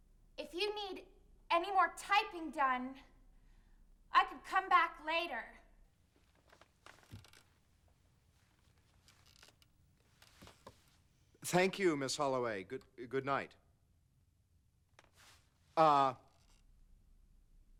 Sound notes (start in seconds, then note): none